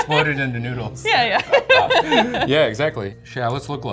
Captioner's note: laughs